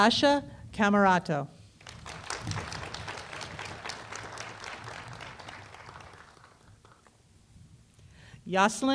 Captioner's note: applause